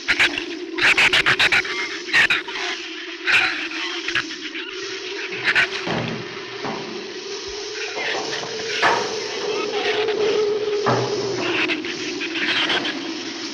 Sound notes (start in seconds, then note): 1.2 shrews chatter; 7.0 flame hisses; 7.0 wind howls